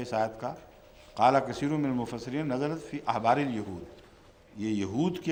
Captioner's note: Arabic